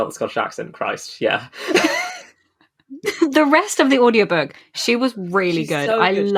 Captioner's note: laughs